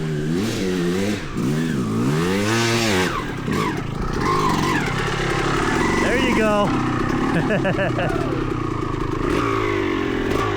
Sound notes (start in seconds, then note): 0.9 engine revving